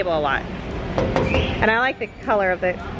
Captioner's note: taps on tabletop